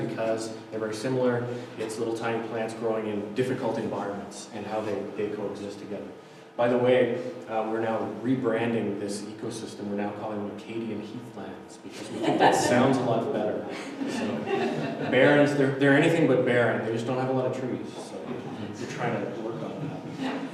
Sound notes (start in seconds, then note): 13.7 audiences laughter